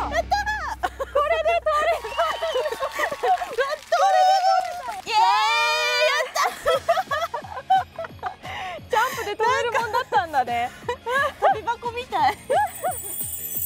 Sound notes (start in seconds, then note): 0.6 laughter; 6.0 laughs